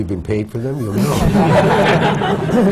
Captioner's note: laughter